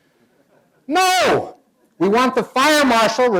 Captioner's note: shouting